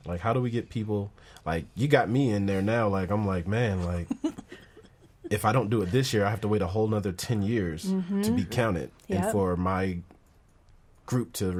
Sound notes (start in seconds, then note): 3.8 laughing